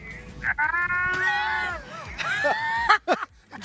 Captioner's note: laughter